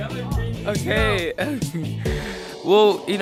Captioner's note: laughs